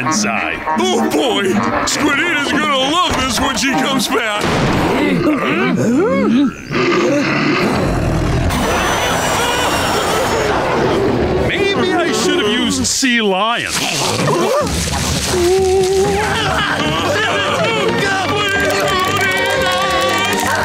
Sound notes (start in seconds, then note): 6.8 growling; 13.8 tribal drumming; 15.3 screaming